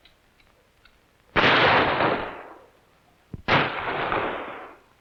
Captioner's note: gun firing